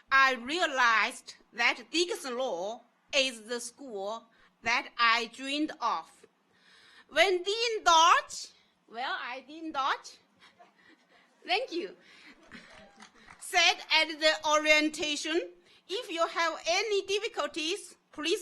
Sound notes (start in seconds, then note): 12.4 audience applauds